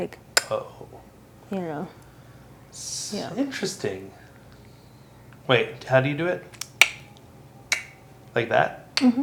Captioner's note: click mouth sound; both click mouth sound